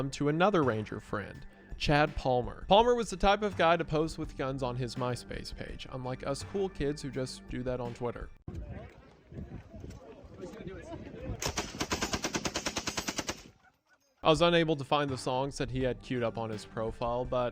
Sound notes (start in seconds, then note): 8.4 indistinct chatter; 11.4 gunfire